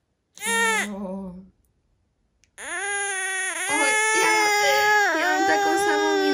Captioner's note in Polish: płacz dziecka